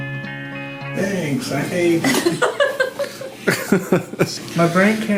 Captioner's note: laughs